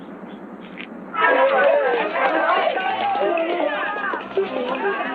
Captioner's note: loud chattering